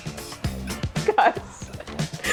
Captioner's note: laughing